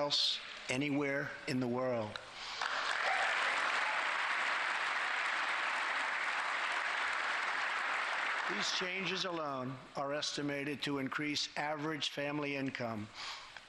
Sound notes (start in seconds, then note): 10.3 applause